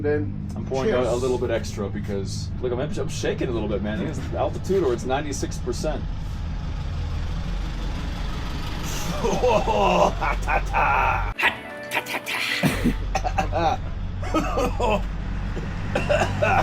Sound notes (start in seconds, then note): 6.5 engine hums; 9.0 coughs; 15.9 coughs